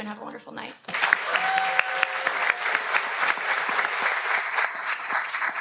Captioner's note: audience cheers